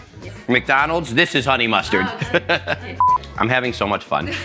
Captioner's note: laughs